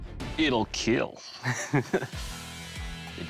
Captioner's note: laughs